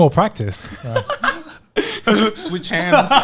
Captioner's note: laughing